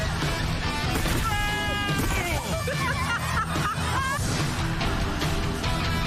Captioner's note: screams and grunts; laughin